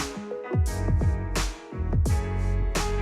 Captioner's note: none